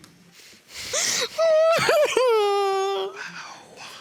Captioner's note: sobs